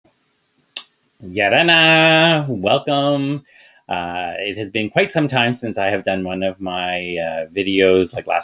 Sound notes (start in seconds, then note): 1.2 man speaking in foreign language